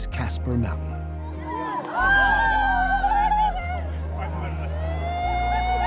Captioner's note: cheering, excited chatter